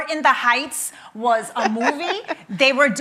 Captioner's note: laughing